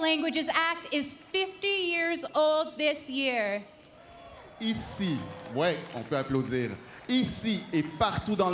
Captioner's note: speaking French